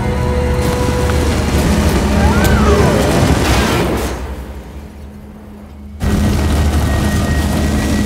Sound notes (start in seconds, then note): 2.1 superhero screams